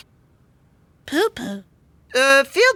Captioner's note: sniffing